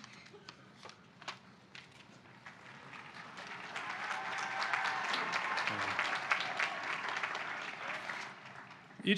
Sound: applause

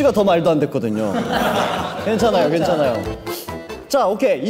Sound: hehe

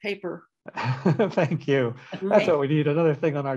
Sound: laughter

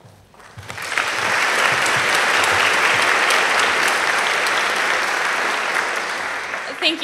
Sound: applause

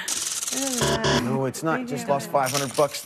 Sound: buzzer

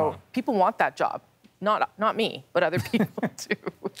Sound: laughs

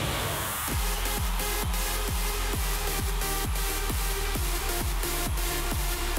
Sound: cheering

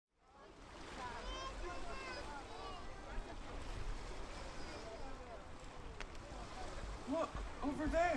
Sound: waves crashing; distant chatter

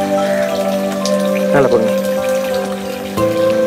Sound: in Tamil

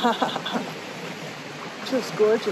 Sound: laughs; water whooshing

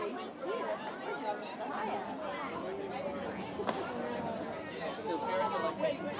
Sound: crowd noises

